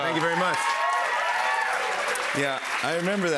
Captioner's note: cheers and applause